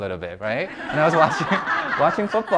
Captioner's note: audience laughs